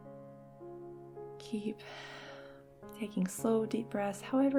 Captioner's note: gentle music; exhales deeply